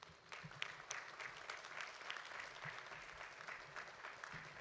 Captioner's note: audience applauding